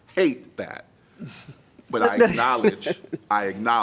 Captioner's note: laughter